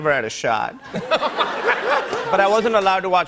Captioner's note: laughter